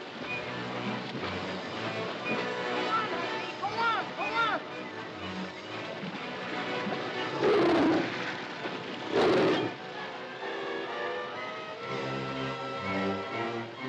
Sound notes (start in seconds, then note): 0.3 water splashing; 5.3 water splashing; 7.4 tigers growling; 7.4 water splashing; 9.6 dramatic music